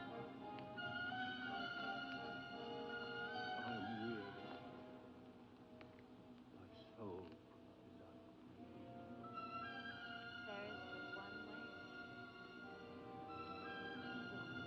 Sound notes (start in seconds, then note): 3.5 indistinct conversation